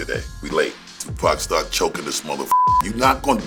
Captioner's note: beep